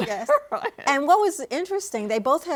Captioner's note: laughs